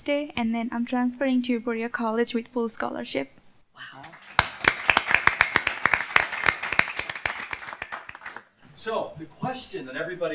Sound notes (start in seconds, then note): 4.0 cheers; 4.0 applause